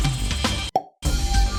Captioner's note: pop of destiny